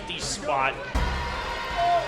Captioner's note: arean Crowd Noise